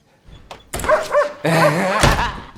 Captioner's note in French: Aboiements